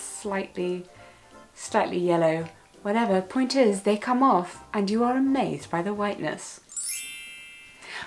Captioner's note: sparkle sound effect